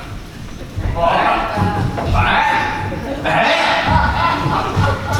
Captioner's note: baaing